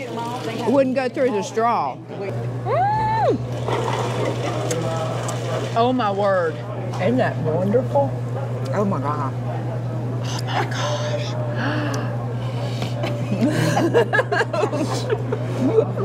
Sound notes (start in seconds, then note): 13.0 laughing